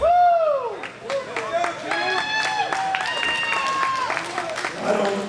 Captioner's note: audience cheering